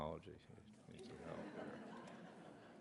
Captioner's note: laughter